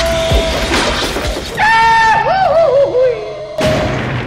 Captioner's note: goofy hollar